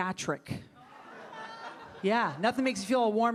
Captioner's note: audience laughing